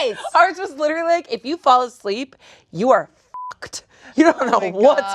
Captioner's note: beep